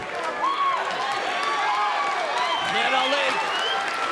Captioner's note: crowd cheering